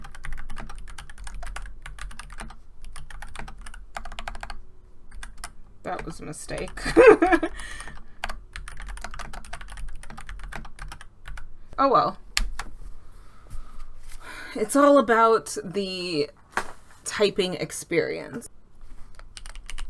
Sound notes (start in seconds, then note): 6.8 laughs; 8.5 typing sounds